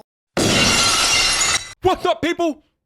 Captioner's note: glass breaks